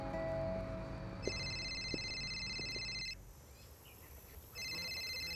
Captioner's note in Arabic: رنات الهاتف الخليوي